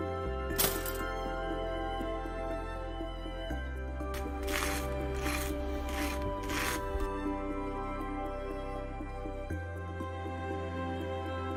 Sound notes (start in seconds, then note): 4.1 knife scraping; 8.5 thoughtful music